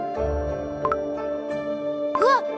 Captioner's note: gulp gulp